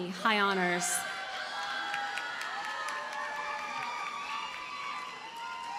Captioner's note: audience cheers and applauds